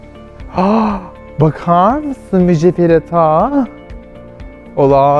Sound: gasps

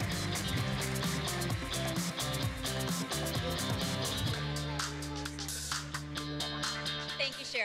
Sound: applause

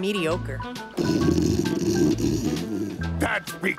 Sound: snoring

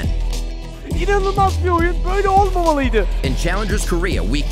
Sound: speaking foreign language

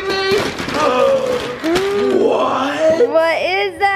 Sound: gasps

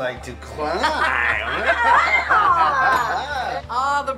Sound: laughs

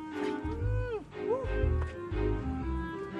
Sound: man 2 whimpers

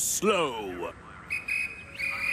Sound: guard's whistle blows

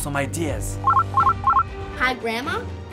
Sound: ringing

